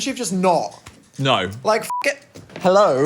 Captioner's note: beep